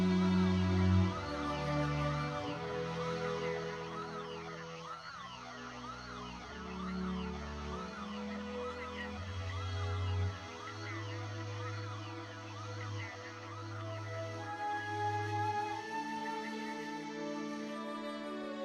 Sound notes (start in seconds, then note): 0.7 sirens whirring; 0.7 somber orchestral music